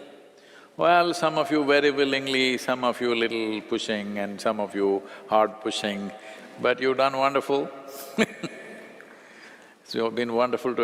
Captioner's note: laughs